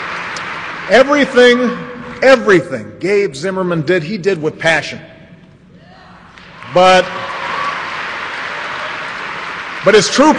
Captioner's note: applause